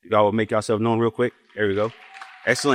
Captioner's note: applause